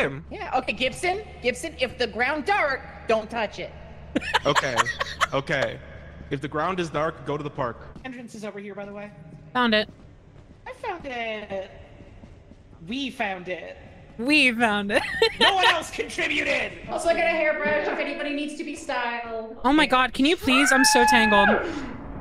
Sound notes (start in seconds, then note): 4.1 laughs; 14.8 laughs; 20.5 screams